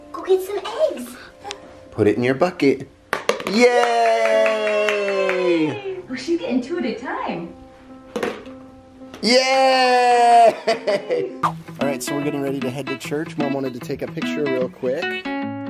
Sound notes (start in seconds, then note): 3.7 mom clapping